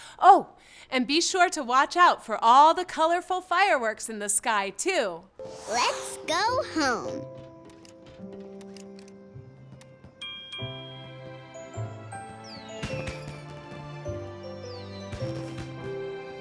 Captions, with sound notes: Oh, and be sure to watch out for all the colorful fireworks in the sky too. - Let's go home. (Trolly dinging) (peaceful music)